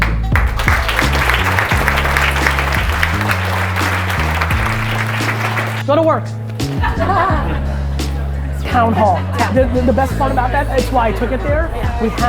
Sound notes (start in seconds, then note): 0.3 audience applause; 6.7 audience laughter